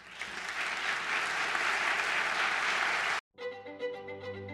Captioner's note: applause